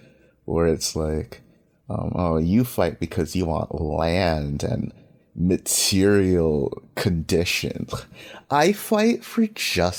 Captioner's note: mocking tone